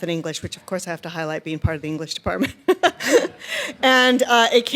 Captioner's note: laughing